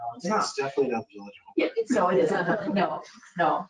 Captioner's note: speaking faintly